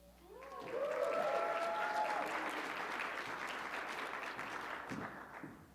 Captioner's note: audience clapping